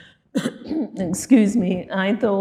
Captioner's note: coughing